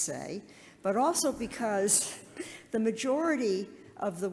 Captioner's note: laughs